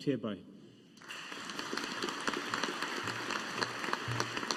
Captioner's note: audience applauding